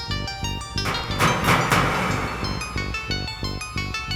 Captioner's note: pounding on metal